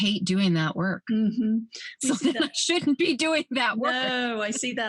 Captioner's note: laughs